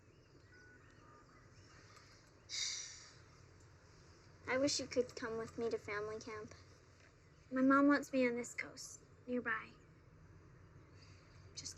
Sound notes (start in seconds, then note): 2.5 sighs